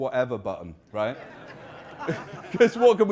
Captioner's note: audience laughing